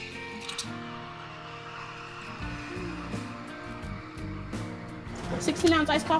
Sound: bright guitar music; steamer whizzes

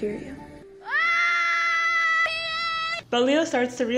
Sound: screaming

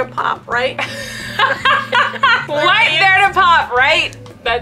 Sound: laughing

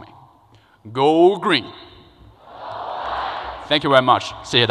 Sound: crowd

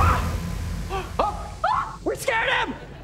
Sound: screaming; gasping

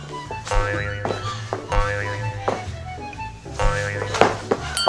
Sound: spring sound effects

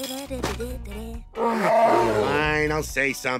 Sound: humming; roaring

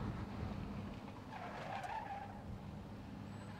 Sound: brakes squeal

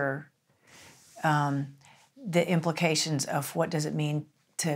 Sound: none

